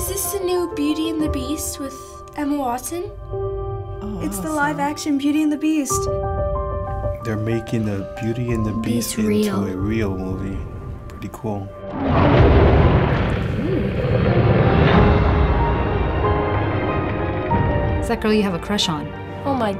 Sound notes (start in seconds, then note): 11.9 beast roars; 14.8 riveting music